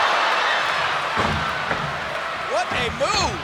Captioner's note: crowd cheering; feet stomping